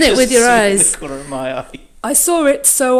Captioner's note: laughs